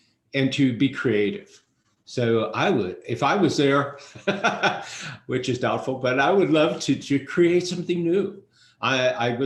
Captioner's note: laughs